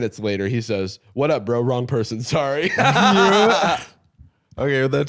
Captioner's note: laughs